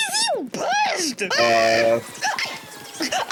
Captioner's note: screams in crazy taxi